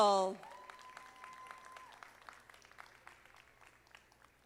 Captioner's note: audience applauding